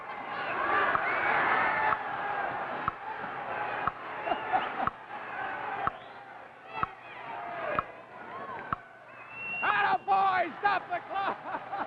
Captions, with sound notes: (Audience cheers) (whistle blows) Attaboy! Stop the clock!